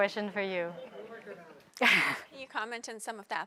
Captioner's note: audience chattering; chuckling